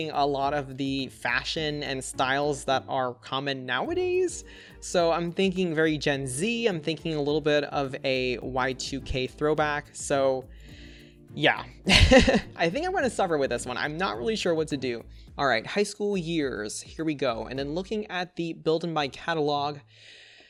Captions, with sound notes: a lot of the fashion and styles that are common nowadays. So I'm thinking very Gen Z, I'm thinking a little bit of a Y2K throwback. So yeah! (Laughs) I think I'm going to suffer with this one. I'm not really sure what to do. All right. High School Years. Here we go. And then looking at the Build/Buy catalogue,